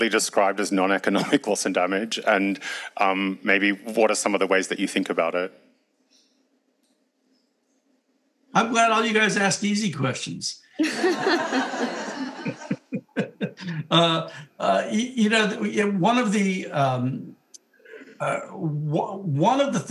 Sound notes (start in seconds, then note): 10.8 audience laughing